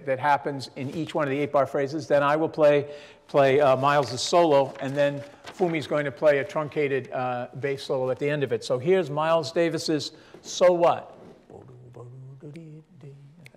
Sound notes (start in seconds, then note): none